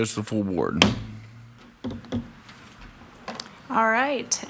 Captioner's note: mallet thudding